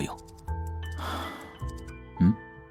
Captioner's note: sighs